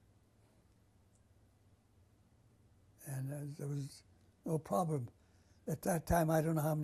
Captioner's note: pauses for 3 seconds